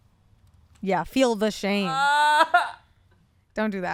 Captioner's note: whining